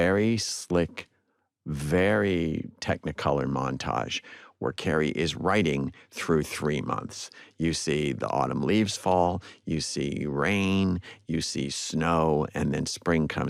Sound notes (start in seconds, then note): none